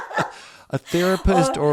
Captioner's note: laugh